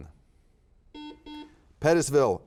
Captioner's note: buzzer beeps